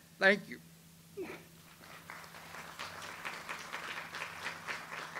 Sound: audience applauds

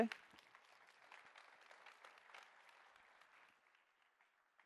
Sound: applause

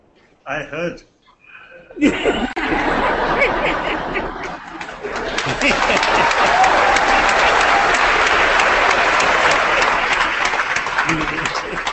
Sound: applause

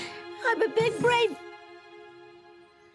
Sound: none

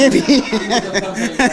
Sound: laughter

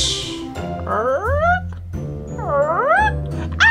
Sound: confused whimper; howls

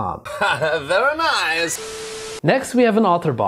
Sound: laughing

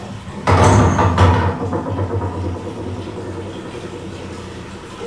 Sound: rocking sound as a heavy item settles from wobbling

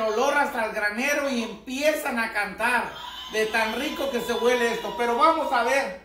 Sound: rooster crowing

